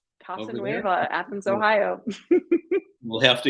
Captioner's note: laughter